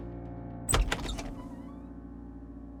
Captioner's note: door creaks open